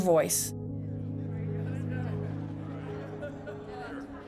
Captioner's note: soft contemplative music; muffled chatter; laughs